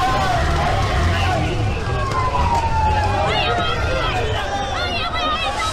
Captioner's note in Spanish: Sirenas